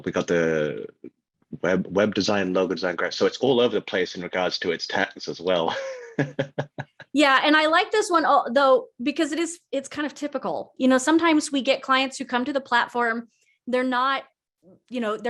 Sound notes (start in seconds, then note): 5.7 laughs